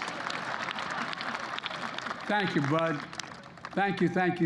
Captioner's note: laughter